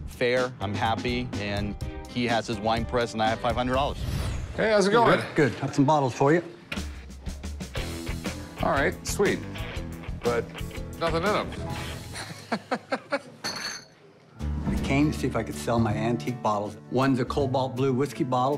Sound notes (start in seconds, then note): 12.1 laughs